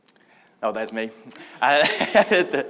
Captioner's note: laughs